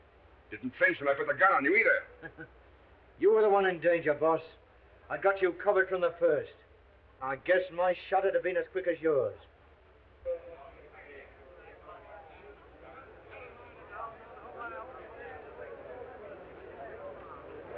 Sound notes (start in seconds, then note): 2.2 Jack chuckling; 10.2 people chattering